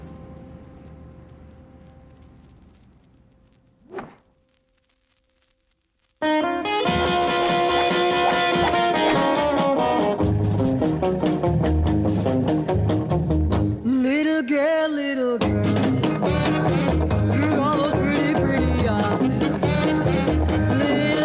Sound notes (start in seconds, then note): 3.8 whooshing; 6.5 rock music